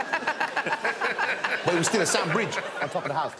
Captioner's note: laughter